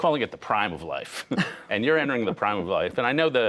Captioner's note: laughter